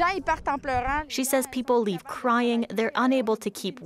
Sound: speaking French

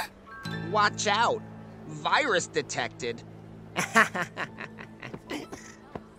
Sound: laughs

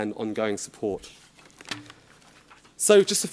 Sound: shuffling

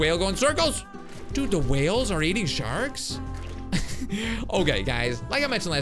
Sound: laughs

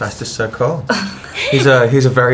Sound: laughs

